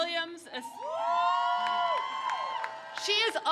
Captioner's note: crowd cheers